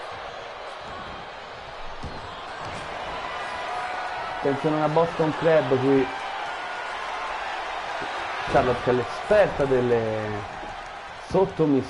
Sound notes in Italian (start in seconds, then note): 2.3 Applauso